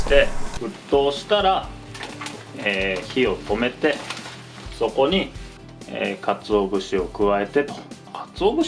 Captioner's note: flame